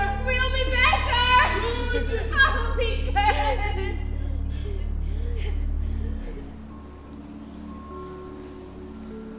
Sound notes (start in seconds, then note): 5.9 sobbing